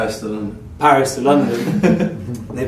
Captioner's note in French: rires